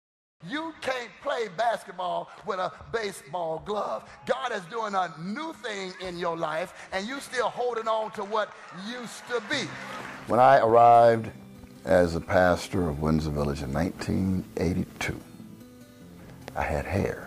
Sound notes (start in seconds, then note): 0.3 preaching